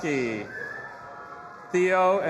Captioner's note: audience applauding and cheering